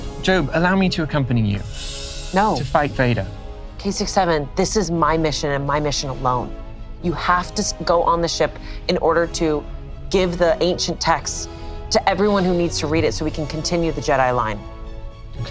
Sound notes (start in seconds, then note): none